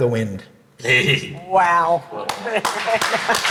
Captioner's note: laughing; audience applauding; chuckling